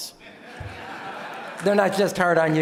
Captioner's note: audience laughing